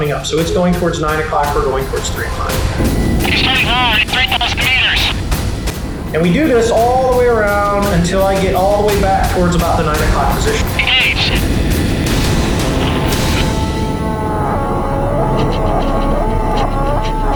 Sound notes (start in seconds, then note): 3.1 voiceover; 11.1 voiceover; 14.1 suspenseful music